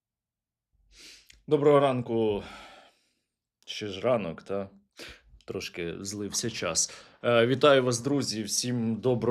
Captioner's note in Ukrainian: сопіння